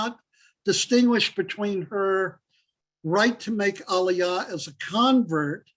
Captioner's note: Hebrew